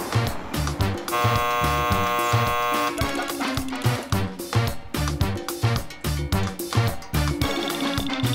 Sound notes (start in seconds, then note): 1.1 cross buzzing